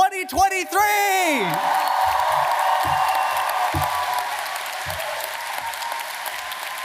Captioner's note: audience cheering and applauding